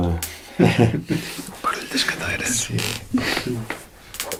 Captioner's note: the noise of the chairs!